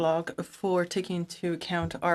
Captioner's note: speaking in French